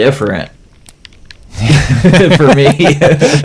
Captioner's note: laughs